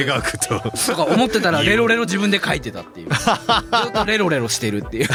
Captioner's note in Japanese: 笑い